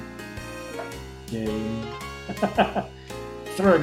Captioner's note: chuckles